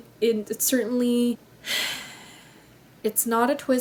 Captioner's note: exasperated sigh